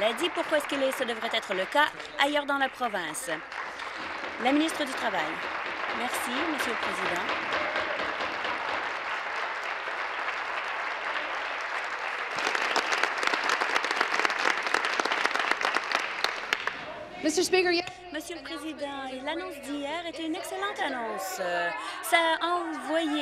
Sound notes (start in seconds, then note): 0.8 applause; 7.6 applause